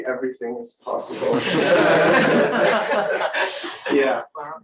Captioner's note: laughter